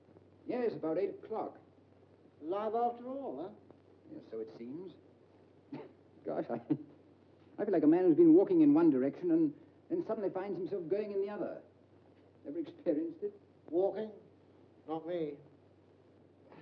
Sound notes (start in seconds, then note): 6.5 chuckles